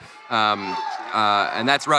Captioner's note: crowd cheering